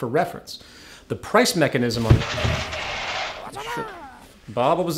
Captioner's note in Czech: třesk